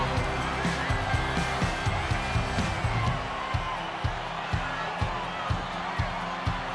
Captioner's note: audience cheering; upbeat country music